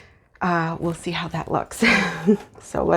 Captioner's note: chuckle